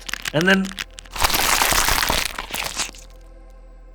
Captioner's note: sound of the create ripped apart